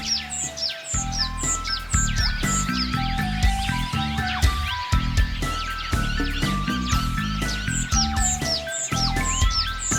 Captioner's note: birds chirping